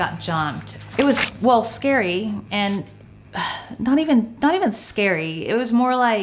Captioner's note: sighs